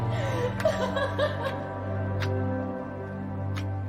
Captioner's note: sobbing